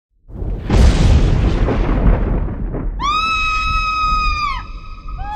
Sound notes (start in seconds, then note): 0.2 thunder; 3.0 woman screaming